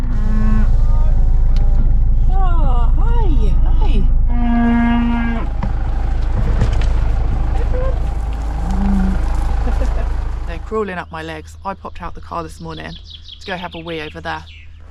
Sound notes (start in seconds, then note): 0.0 moo!; 4.2 moo!; 8.6 chuckles; 8.8 moo